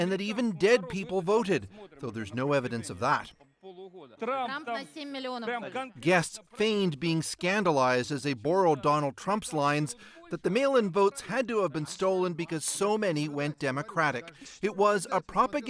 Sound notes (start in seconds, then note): 9.5 speaking foreign language